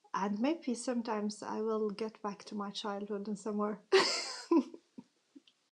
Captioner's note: laughs